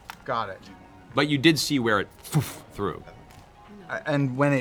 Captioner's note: tearing noise